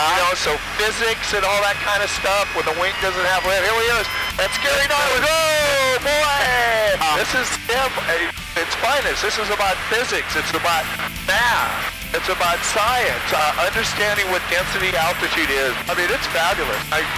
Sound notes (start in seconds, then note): 3.8 stall warning horn sounds; 6.3 laughs